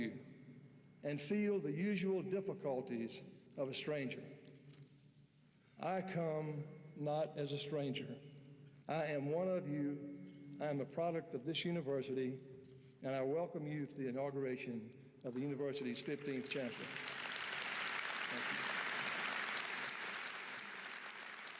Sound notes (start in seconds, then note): 16.3 audience applauds